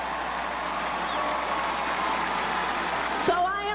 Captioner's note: crowd cheers